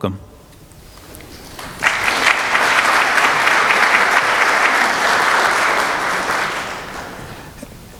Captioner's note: applause